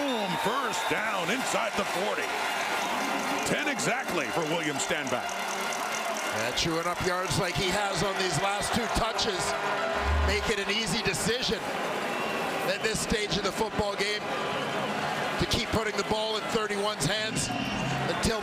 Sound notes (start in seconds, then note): 6.1 crowd Noise